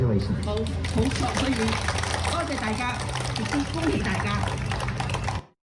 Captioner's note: speaking foreign language